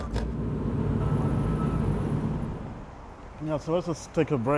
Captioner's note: vehicle engine